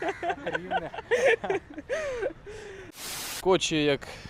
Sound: laughing because Rivne is their native region

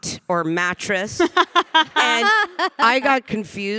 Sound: panelists laughing

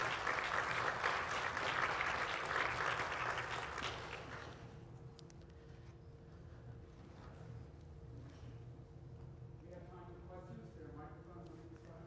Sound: applause

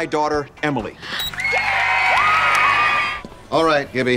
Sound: cheering

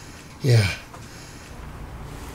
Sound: breathing heavily

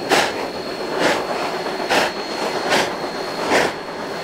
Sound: Slow, steady chugging from 484

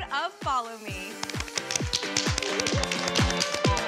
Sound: applause

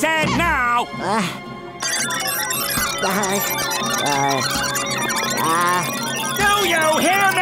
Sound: beeping

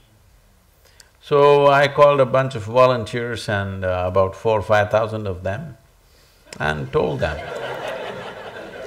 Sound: laughter

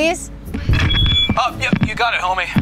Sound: intercom whining

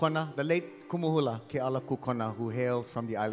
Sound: speaking in Hawaiian

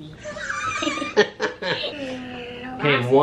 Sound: laughs

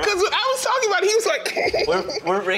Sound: chuckles

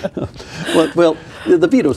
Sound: laughing

